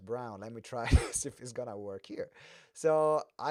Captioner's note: laughs